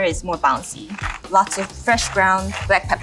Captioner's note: spice rack rattling